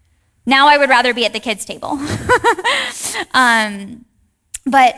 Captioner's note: chuckles